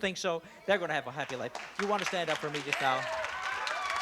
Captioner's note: applause